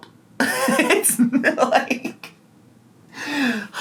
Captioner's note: laughter